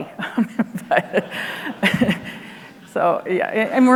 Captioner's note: everyone laughs